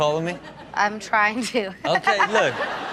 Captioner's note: laughs